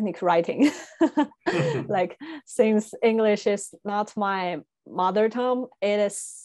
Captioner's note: laughs